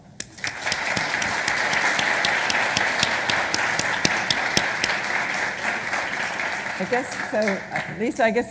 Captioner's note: applauding